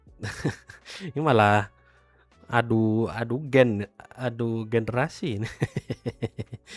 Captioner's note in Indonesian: tertawa; tertawa